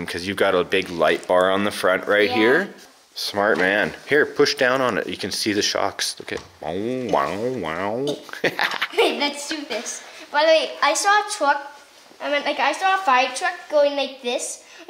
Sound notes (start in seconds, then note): 8.2 laughs